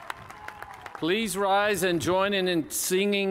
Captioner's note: cheers and applause